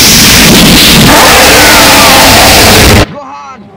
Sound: scream of agany again

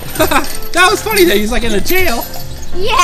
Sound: laughs

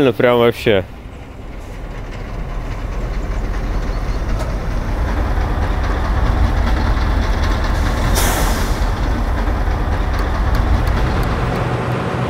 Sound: working engine

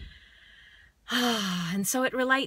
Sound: exhales

